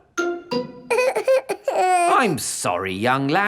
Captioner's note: whimpers